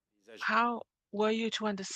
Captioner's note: speaking French